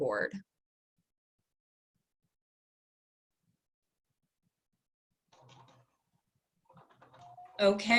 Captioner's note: long Pause